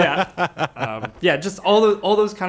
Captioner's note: chuckles